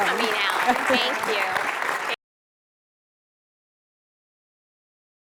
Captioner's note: applause